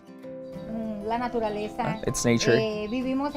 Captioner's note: speaks foreign language